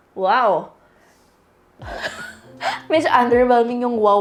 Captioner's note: chuckles